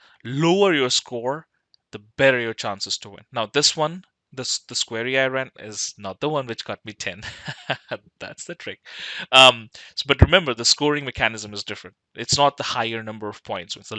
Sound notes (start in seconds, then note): 7.2 laughs